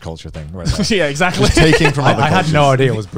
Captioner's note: laughs